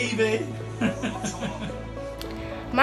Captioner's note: laughing